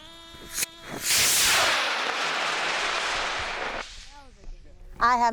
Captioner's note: rocket hisses loudly